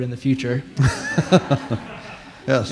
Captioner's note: laughter